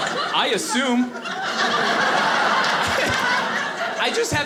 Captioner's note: audience laughing